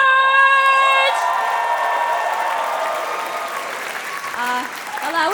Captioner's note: cheering; applause